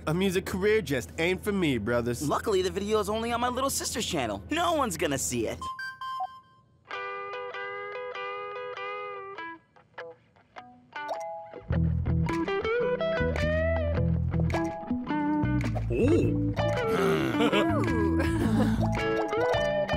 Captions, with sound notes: - A music career just ain't for me, brothers. - Luckily, the video's only on my little sister's channel. No one's gonna see it. (phone chiming) (guitar melody) (soft rock music) - Oh! - Argh! - Ooh! (chuckling)